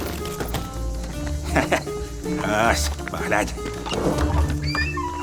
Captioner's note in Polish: śmieje się